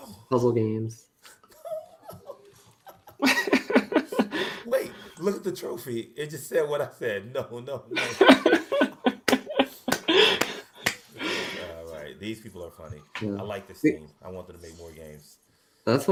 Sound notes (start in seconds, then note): 1.2 laughs; 7.8 laughs